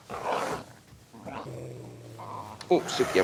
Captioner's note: dogs growling